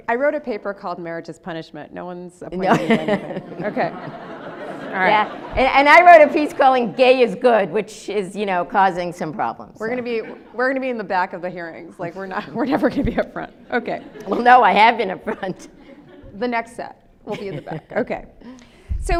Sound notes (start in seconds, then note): 2.7 audience laughs